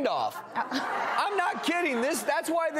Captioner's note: audience laughs